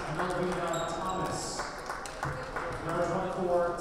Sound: players applauding

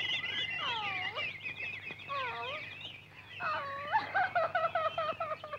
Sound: cries

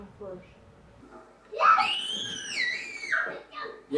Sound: children scream playfully

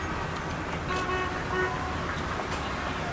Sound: vehicle honking

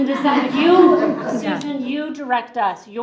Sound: group laughs

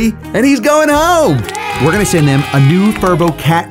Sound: crowd cheering

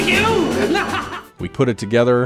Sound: maniacal laughter

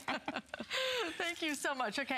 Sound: laughter

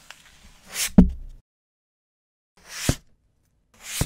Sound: paper thudding

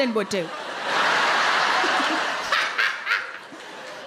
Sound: crowd laugh

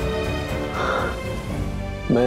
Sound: sighs

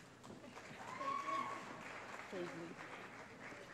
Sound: applause

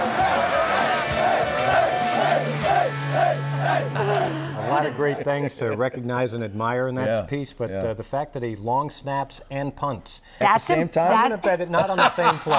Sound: cheers and applause

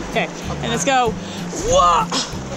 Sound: yells loudly

